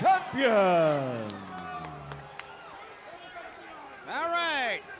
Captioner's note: crowd chatter